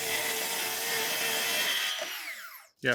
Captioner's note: power tool shooting; power tool whizzing